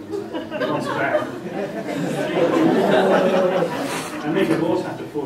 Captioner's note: laughter